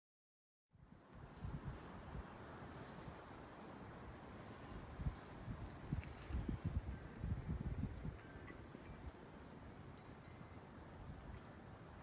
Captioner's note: sound of birds tweeting and wind in the microphone